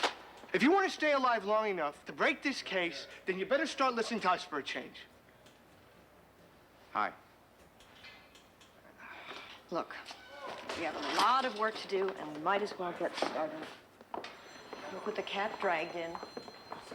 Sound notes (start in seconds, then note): 8.9 sighs